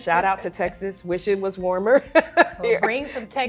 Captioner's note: laughs